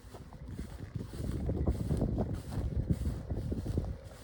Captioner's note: tractor noise and footsteps